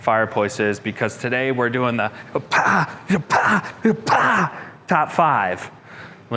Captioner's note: imitates fists striking